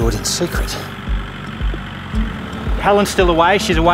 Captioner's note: tractor